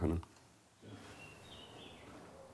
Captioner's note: birds chirping